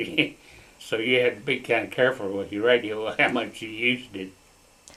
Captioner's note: laughs